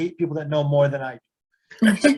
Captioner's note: laugh